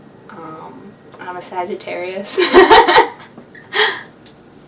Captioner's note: laughs